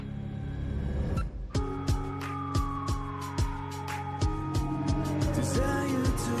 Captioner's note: siren